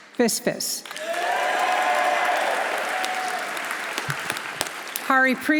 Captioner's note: audience applauding; audience cheering